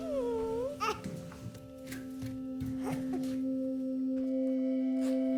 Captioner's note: child struggling and laughing